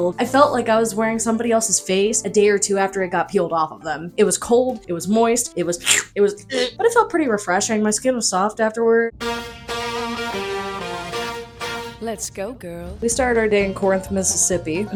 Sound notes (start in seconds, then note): 5.8 gag; 5.8 sluuurp